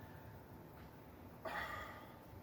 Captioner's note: exasperated sigh